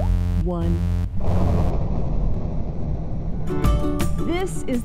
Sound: rocket launching/music

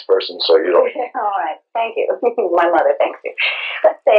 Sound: laugh

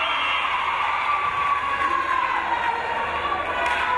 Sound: crowd cheering

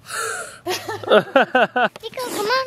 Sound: girl gasps; laughing

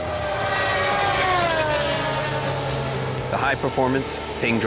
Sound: cars racing; car horn

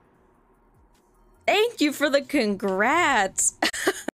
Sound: laughs

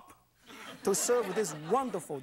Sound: audience laughs

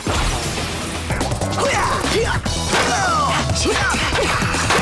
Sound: fighting sounds

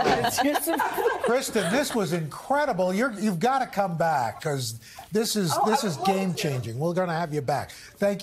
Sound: laughing

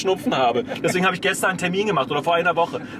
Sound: laughs

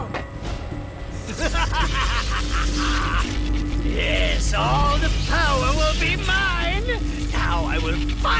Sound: evil laugh

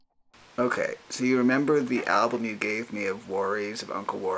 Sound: voiceover

